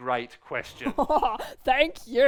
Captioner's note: Bubbles laughing